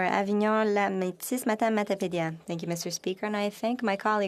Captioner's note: speaking French